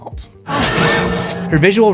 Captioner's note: screams